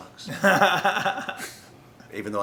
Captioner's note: laughs